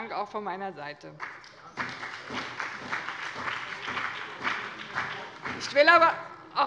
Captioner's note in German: Allgemeiner Beifall